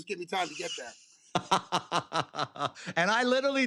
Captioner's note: laughter